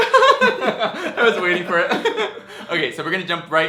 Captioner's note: laughs